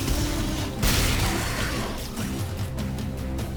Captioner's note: gunshots; suspenseful music